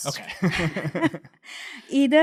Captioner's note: laughing